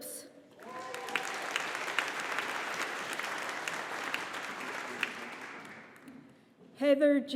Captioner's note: audience applauding